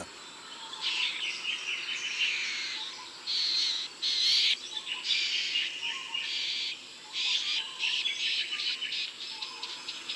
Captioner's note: bowerbird sounds